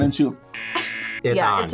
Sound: buzzer rings

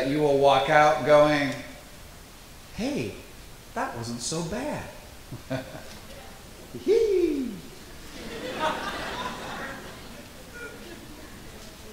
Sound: laughs and says Heee

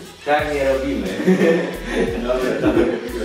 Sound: laugh

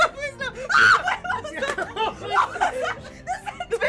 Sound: screams

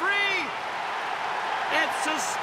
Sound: cheers and applause

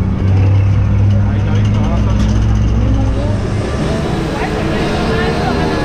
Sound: people speaking Spanish

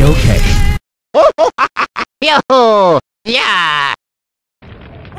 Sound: laughing

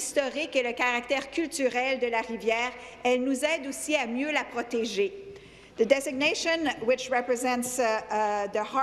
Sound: speaking in French

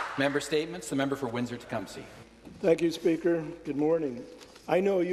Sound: applause

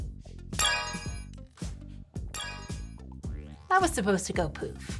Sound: wand chiming

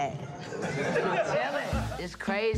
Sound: laughs

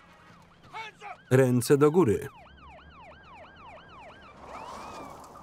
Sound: sirens wailing

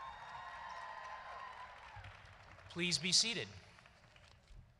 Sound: applause

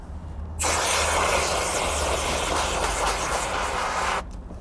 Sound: water spraying

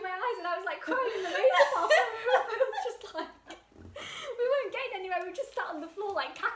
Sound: laughing

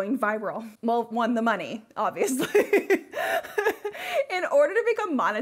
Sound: laughs

